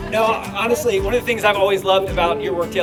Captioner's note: applause